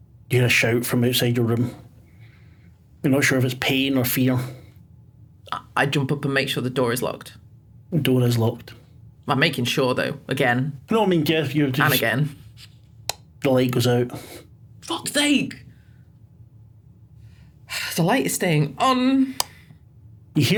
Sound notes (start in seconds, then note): 13.0 click; 19.4 click